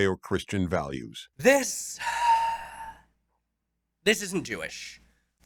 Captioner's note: sigh